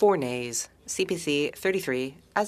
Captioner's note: speaking French